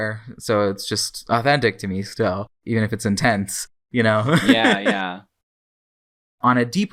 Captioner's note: laughs